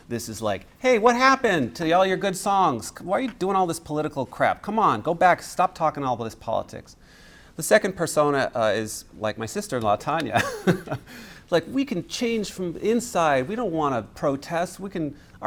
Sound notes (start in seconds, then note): 10.2 laughs